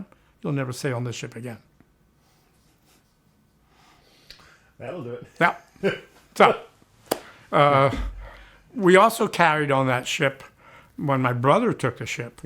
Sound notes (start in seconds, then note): 2.9 chuckles